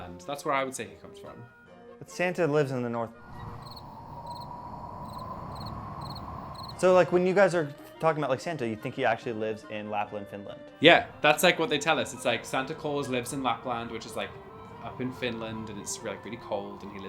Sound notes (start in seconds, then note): 3.3 birds chirping; 4.9 wind whistling